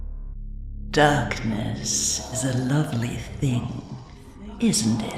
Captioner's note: echoing